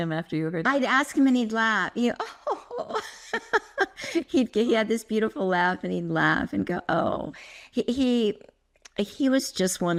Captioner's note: laugh